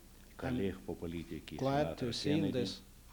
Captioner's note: non-english speech